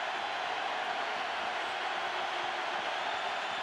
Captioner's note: crowd clamoring